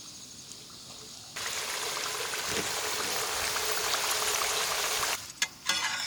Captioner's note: sizzling fries